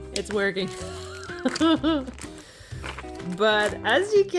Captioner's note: laugh